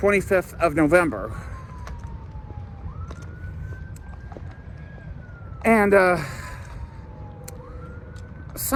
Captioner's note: police, fire, or ambulance siren wailing from a distance